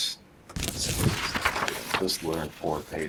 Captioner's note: paper rustles